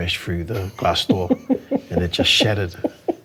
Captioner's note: laughing